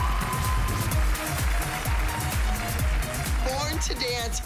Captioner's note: cheering